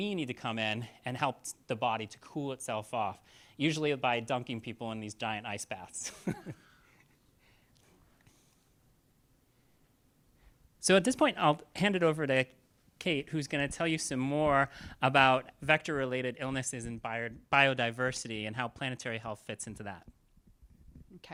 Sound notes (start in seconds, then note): 6.0 chuckles